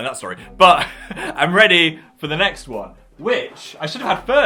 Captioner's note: laughs